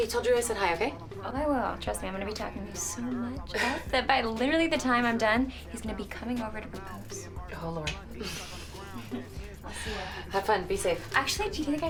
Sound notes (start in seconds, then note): 8.2 Kristen chuckles